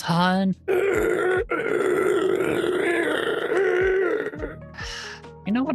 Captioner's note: gasping